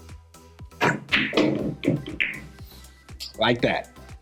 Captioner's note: pool balls clacking and thudding